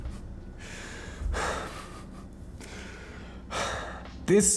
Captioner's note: sighs